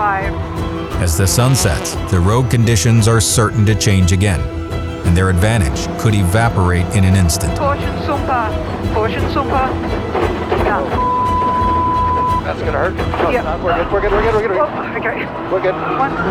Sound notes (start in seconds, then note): 11.0 beep